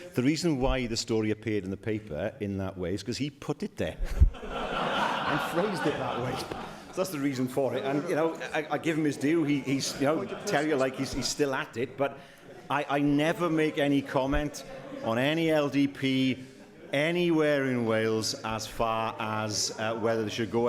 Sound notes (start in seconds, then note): 4.0 laughter